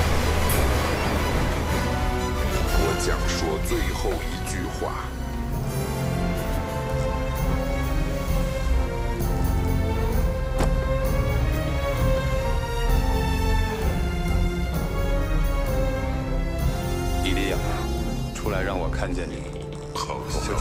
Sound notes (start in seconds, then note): 7.2 galley creaking; 10.5 cloak thud; 12.4 galley creaking